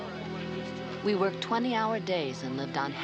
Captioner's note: Maggie Voiceover